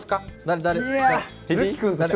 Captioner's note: A distinctive way of speaking